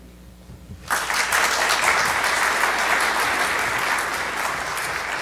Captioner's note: audience applauding